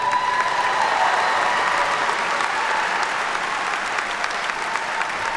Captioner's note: attendees cheer and clap